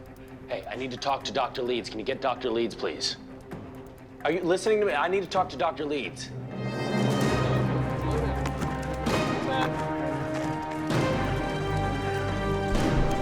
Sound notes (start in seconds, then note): 7.7 indistinct chatter; 9.7 dramatic music playing